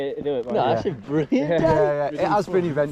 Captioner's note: brummie accent